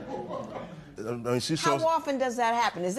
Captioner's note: laughter